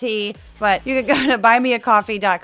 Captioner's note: laugh